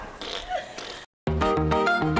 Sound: laughing; farting; exciting synth music

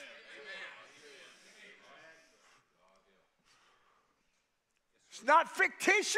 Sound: congregation shouts agreement

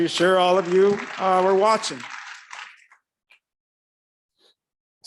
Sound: audience clapping

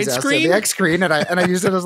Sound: laughs

